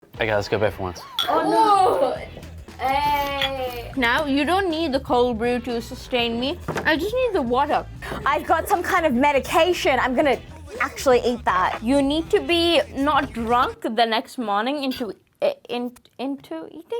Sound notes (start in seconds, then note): 1.1 glass clinks; 1.2 groans